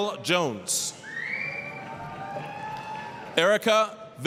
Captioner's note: applause, cheering